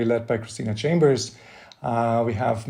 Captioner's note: none